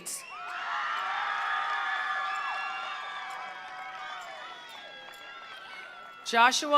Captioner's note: attendees cheering; attendees applauding